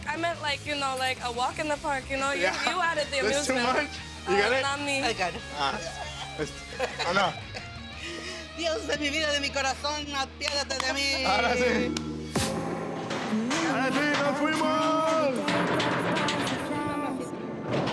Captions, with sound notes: I meant like a walk in the park, you know? You added the amusement, not me. - You got it? - I got it. (speaking Spanish) (upbeat music)